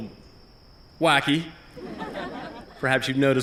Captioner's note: laughter